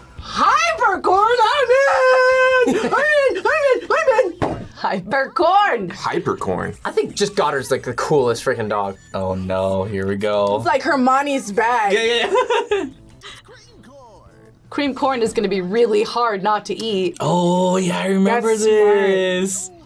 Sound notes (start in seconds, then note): 13.2 laughs